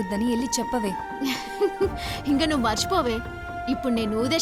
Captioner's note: laughing